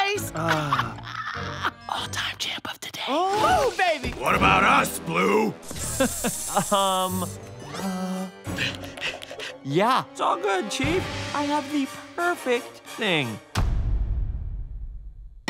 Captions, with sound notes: Uh. [laughing] All time champ of the day. Oh, baby. What about us, Blue? [chuckles] Um. Uh. Yeah, it's all good, chief. I have the perfect thing.